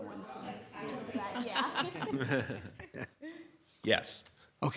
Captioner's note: people chuckling